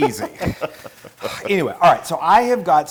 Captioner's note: laugh